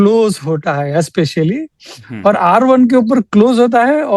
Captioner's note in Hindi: नाक से की जाने वाली आवाज़